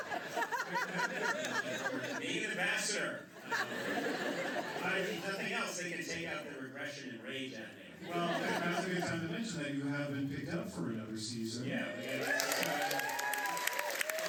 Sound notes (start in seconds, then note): 0.0 laughter; 4.5 laughter; 12.0 applause